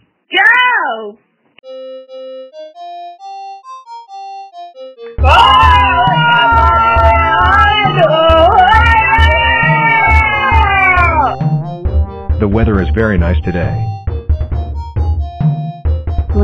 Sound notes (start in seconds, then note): 5.2 unexplained screaming